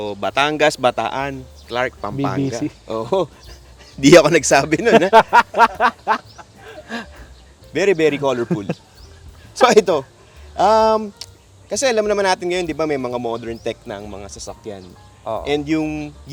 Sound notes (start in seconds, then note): 4.8 laughs